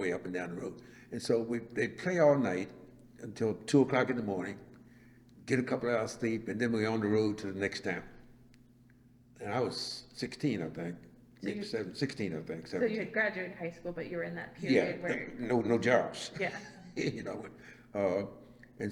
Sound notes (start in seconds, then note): 14.6 laughs